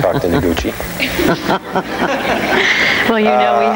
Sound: laughing; laughing with audience

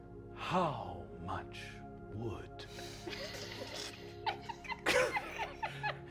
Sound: all laughing

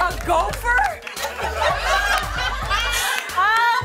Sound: laughter

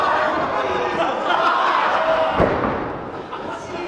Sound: laughs

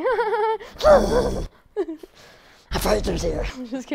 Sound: laughing

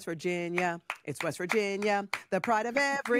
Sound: hands clapping

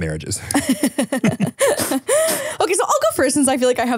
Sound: laughing

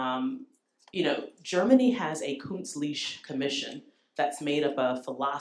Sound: german

